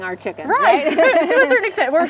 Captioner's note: laughs